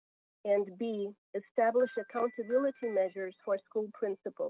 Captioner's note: chime